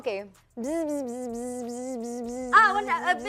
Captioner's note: buzzing in tune